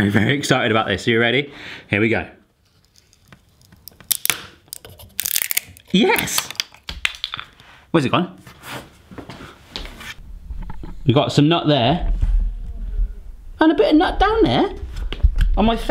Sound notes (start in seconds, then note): 2.8 clicking and popping; 5.0 cracking